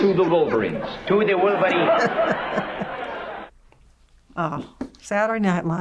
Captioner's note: chuckles